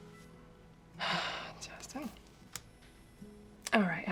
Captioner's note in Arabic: تنهدات